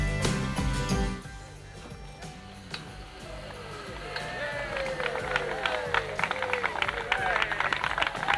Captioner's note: applause; water spraying